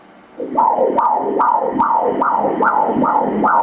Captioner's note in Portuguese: batidas do coração